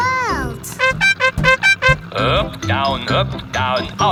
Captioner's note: horn beeping